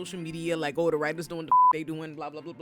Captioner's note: beep